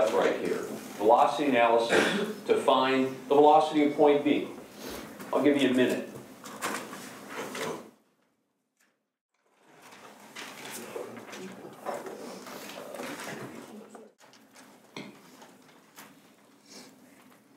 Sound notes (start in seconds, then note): 6.6 long pause